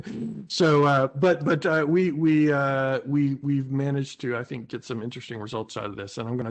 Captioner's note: laughs